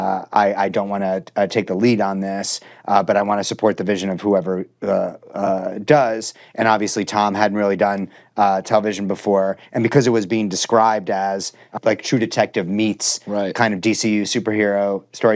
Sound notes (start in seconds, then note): none